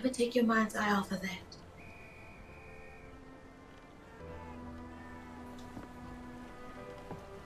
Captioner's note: soft music; whistle blowing